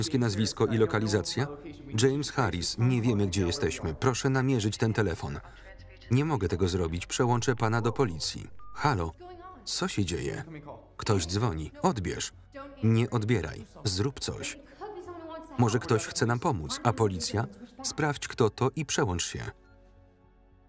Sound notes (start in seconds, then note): 7.2 beep